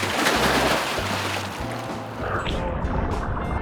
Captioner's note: water splashes; upbeat music